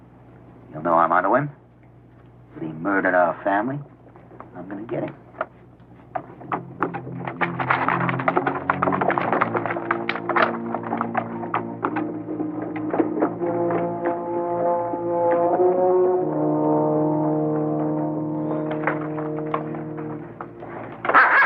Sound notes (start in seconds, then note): 7.0 hooves clattering